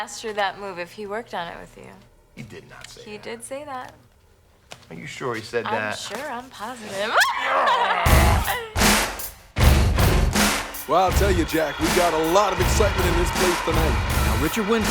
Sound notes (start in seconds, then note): 5.6 growls; 5.6 screams; 7.1 crowd cheering